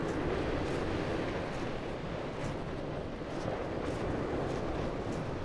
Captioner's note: waves crashing